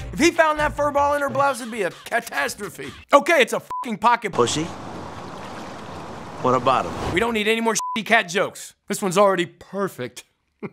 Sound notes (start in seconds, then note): 2.2 beeps; 7.7 beeps; 10.6 chuckles